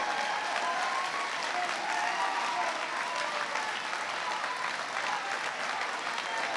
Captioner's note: applause